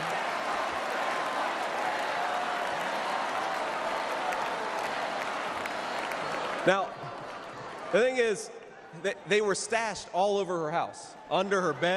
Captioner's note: cheers and applause